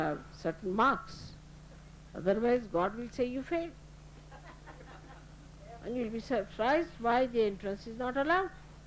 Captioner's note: laughter